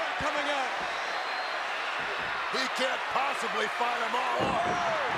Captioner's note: applause